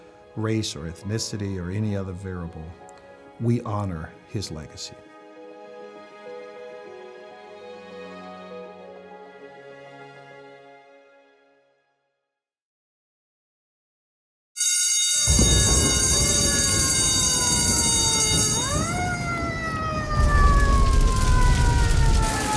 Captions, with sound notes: race or ethnicity or any other variable, we honor his legacy. [fire alarm bell rings] [fire bell continues] [approaching siren screams] [siren screaming] [flames crackle]